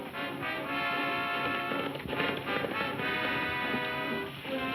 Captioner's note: hooves thudding